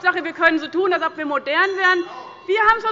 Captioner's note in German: Unruhe – Glockenzeichen der Präsidentin